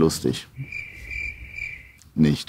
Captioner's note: crickets chirp